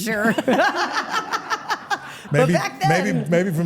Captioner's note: everyone laughs